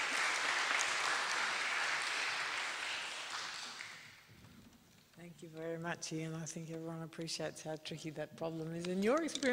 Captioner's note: applause